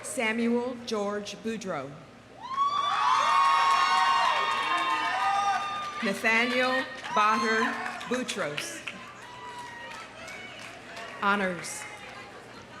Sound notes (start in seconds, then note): 2.4 audience cheering; 8.4 audience applauding